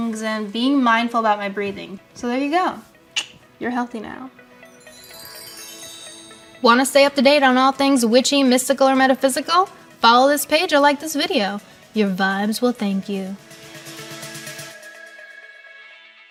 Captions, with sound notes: and being mindful about my breathing. So there you go. You're healthy now. [chimes] Want to stay up-to-date on all things witchy, mystical, or metaphysical? Follow this page or like this video. Your vibes will thank you. [ambient music]